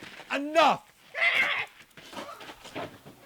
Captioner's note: renaldo screams